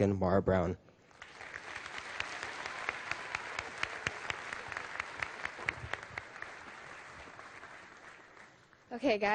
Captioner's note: applause